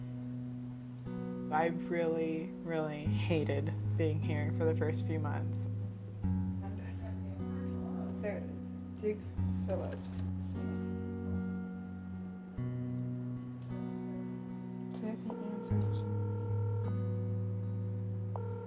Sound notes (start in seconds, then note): 0.3 gentle music; 6.0 people chattering; 12.3 gentle music continues; 18.3 phone ringing